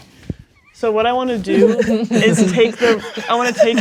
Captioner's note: players laughing